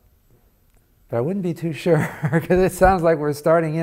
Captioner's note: laughs